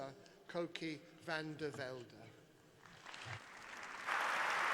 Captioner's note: applause